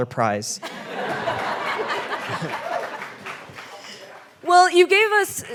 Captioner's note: audience laughing and applauding